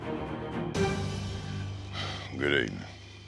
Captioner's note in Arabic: تنهد